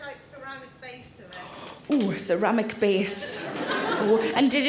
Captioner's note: audience laughing